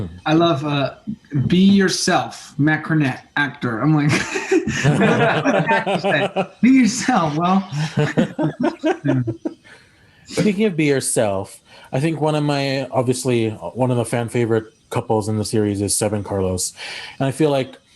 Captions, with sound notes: - I love "Be yourself," Matt Cornett, actor. I'm like, (laughs) for an actor to say, "Be yourself," well. (all laugh) - Speaking of being yourself, I think one of my, obviously one of the fan favorite couples in the series of Seb and Carlos, and I feel like